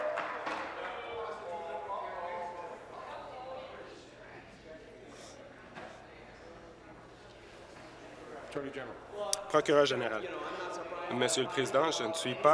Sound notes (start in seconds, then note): 2.1 applause